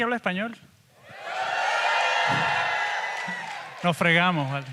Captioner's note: speaks in Spanish; audience applauds and cheers; speaks in Spanish